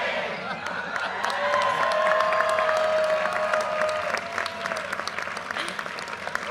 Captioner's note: audience laughter, cheers and applause